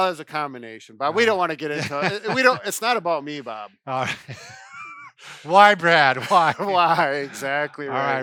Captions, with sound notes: - Well, it's a combination, but we don't wanna get into it. It's not about me, Bob. - Why, Brad, why? (laughing) - Why, exactly right.